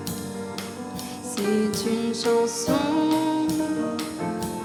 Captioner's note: french speech